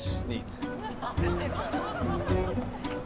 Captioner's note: laughter